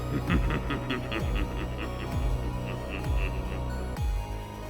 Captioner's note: X Knight laughing